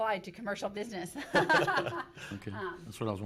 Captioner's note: laughing